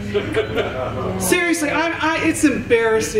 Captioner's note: chuckles